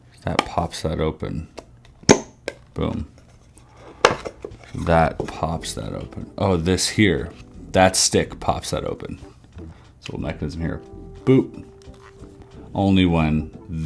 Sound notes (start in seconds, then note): 0.0 lid snapping in place; 1.9 lid popping